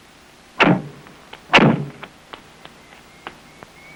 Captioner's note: doors banging